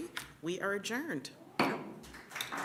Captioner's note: gavel bang